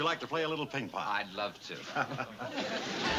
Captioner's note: Lew chuckles